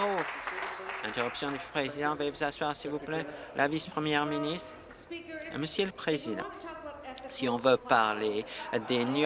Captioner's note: applause